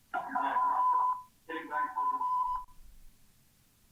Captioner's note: audio feedback